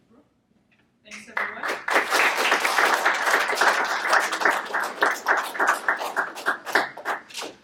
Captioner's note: audience Clapping